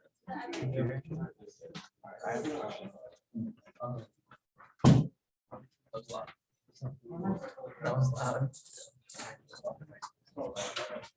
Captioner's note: background Discussion